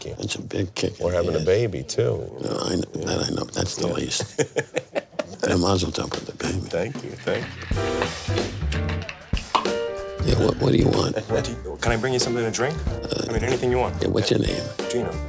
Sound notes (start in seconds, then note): 4.0 laughing